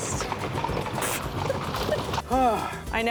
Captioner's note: laughs